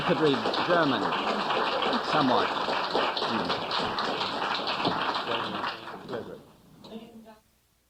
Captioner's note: laughter and applause